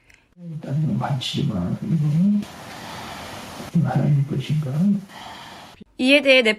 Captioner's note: breathing sound